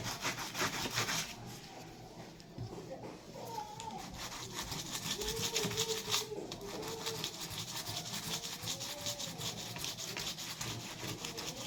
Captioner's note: sound of sanding